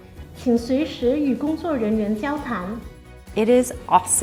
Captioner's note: speaking foreign language